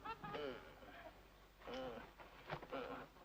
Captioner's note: groaning